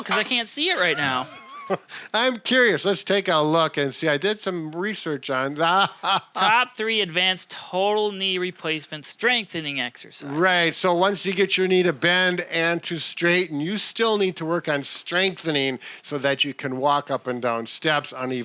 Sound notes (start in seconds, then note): 0.8 laughs